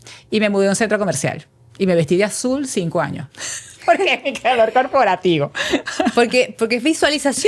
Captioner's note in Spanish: risas